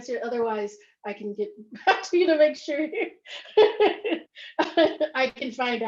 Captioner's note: laughs